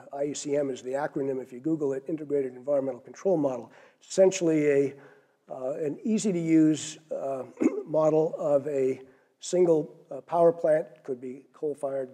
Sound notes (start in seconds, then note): 7.4 cough